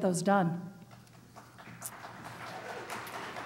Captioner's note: applause